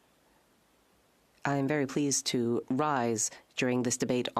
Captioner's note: speaking French